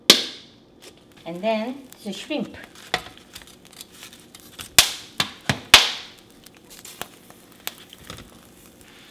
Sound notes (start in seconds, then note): 4.6 pop and crackling